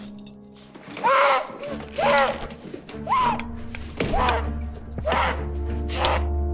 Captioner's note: Marcus screams, dramatic music